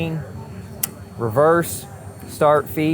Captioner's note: switch clicks